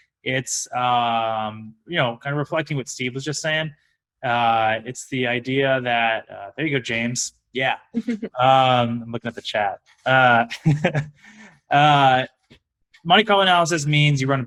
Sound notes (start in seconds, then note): 8.0 chuckles; 10.1 laughs